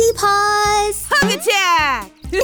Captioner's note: boing